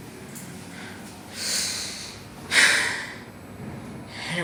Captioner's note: breathing